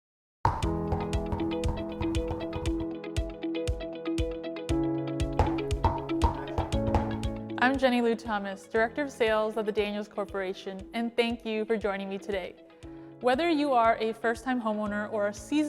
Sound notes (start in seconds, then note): 0.5 bouncing; 3.2 upbeat music